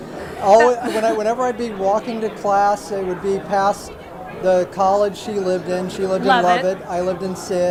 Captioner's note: laugh